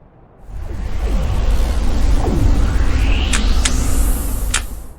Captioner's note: wind whooshing